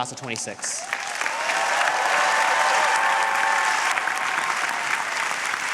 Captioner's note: audience cheering and applauding